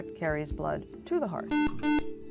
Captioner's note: buzzer